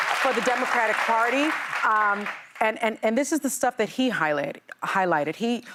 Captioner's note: cheers and applause